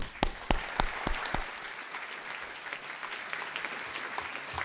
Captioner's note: applause